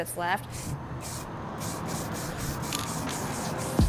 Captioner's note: can spraying